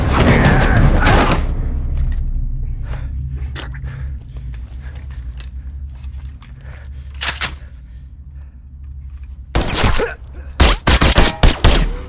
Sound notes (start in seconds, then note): 2.6 breathing heavily; 7.2 gun clinking; 10.6 gunshots